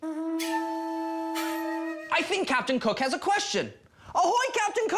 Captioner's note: horn